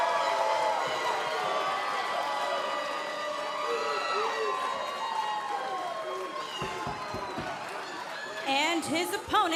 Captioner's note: cheers & boos